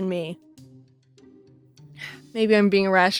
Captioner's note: sigh